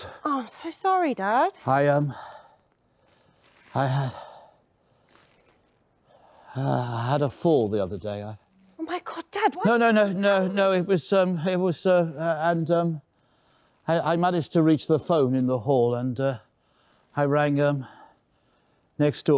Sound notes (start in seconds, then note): 2.0 breathing heavily